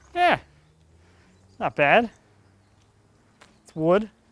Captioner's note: none